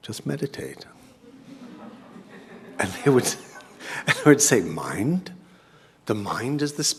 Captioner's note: laugh